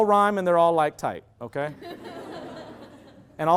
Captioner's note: loud laughter